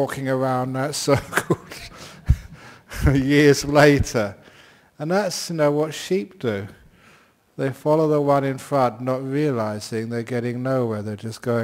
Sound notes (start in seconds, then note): 1.1 chuckles; 4.3 laughs